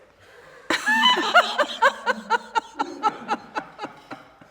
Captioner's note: all laughing